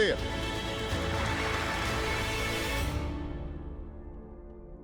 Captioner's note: audience applauds